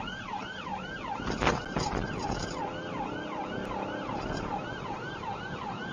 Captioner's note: car clunks over speedbumps